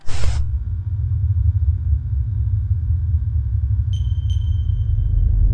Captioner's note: machine whirring; pensive music; machine beeping